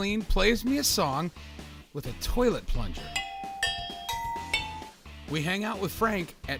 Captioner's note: bell-like noises